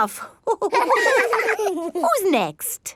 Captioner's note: all laughing